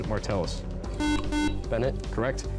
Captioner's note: buzzer